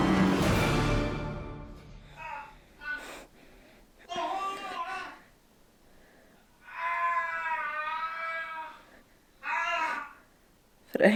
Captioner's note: Screams from Frank Longbottom